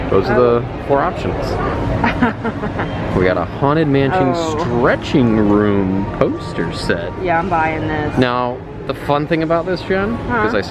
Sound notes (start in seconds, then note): 2.0 laughs